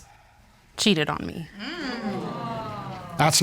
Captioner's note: audience groans